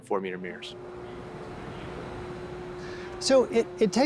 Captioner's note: engine humming